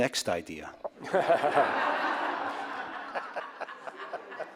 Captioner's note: audience laughs